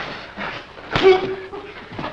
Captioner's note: slapping noise